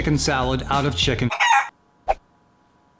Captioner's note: chicken squawks